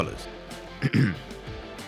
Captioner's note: cough